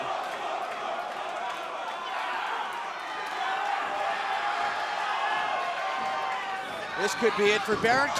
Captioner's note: crowd cheering